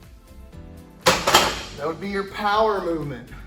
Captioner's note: soft music; metal clunking